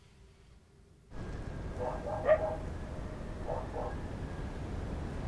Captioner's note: dogs barking